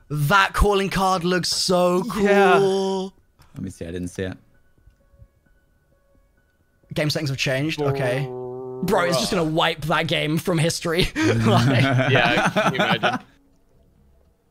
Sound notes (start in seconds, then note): 11.2 laughs